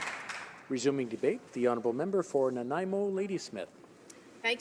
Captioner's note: applause